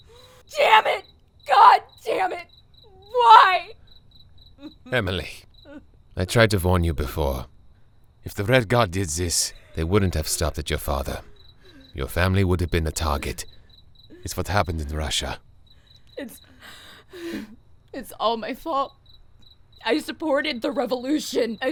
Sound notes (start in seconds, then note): 0.2 agonising scream; 3.8 sound of crickets; 15.5 sound of crickets; 16.6 Emily sighs